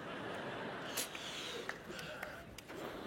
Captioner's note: laughter